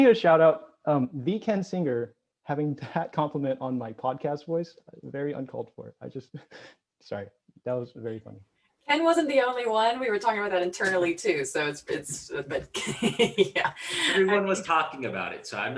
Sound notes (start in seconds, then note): 12.5 laughs